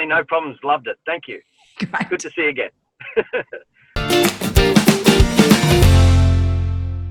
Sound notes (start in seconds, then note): 3.0 laughs; 4.0 upbeat music